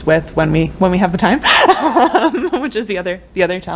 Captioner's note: laughter